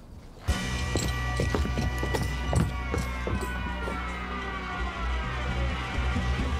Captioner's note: thrilling music; footsteps thudding